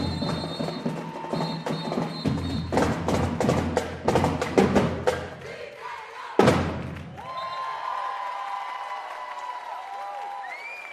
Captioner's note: cheers and applause